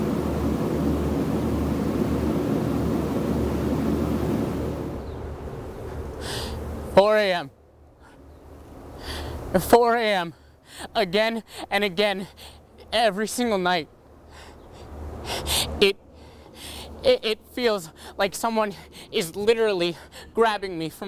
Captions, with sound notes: (inhales) 4:00 a.m., at 4:00 a.m., again and again every single night it feels like someone is literally grabbing me from my bed.